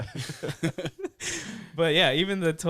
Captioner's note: laughing